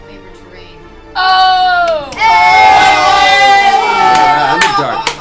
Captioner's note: all cheer